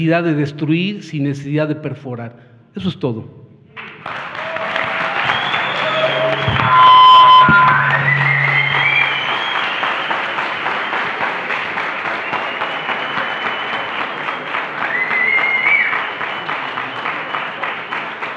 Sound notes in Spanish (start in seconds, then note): 3.7 Aplausos